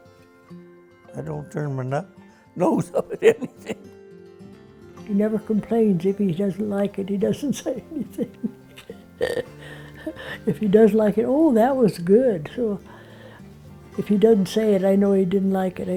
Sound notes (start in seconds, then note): 2.6 laughs; 9.8 laughs